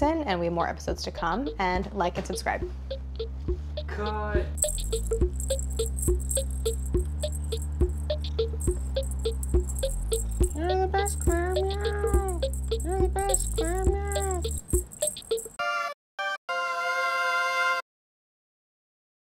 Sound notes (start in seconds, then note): 5.3 bell rattling; 8.6 upbeat instrumental music; 15.2 upbeat instrumental chimes